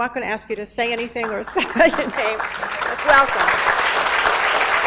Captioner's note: audience applauds; laughs